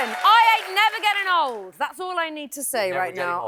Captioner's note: cheers and applause